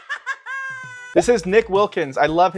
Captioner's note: cackling